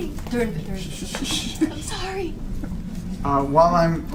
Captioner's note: shushes